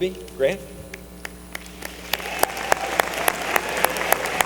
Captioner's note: applause